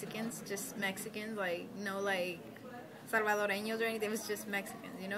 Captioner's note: speaking Spanish